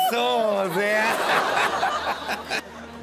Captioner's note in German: Publikum lacht